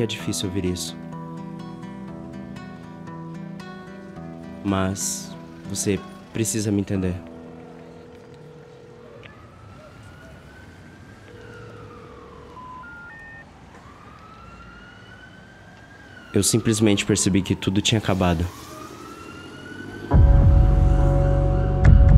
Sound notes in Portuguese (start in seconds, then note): 7.1 chamada telefônica